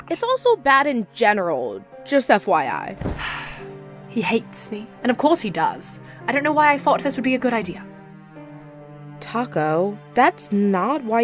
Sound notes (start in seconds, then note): 3.1 sighs